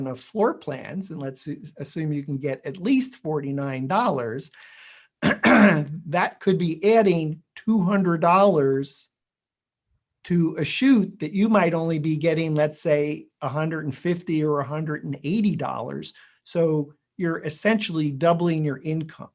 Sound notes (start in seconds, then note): 5.2 clears throat